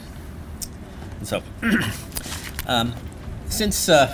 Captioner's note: clears throat